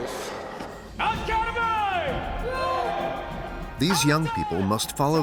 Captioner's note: cadres yelling